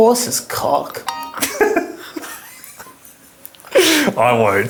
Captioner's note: both laugh